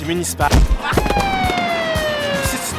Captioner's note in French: sirène